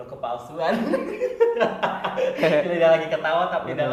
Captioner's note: laughing